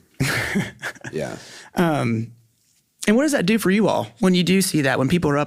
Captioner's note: laughs